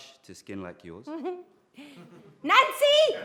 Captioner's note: laughs